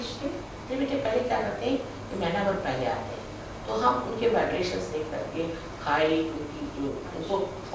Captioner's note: hindi